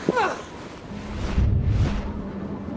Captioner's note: wind whistles; woman groans; low whooshing